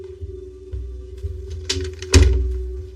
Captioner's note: door clcloses